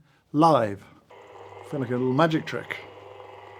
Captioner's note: grinder whirring